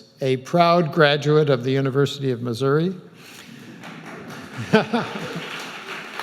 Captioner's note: applauding; laughs